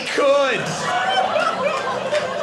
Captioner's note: audience laughing